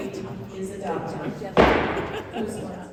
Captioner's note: gavel bangs